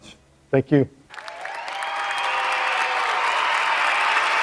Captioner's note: applause